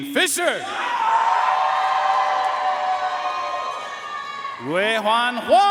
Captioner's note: audience cheering and applauding